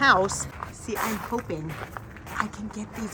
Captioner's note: footsteps crunching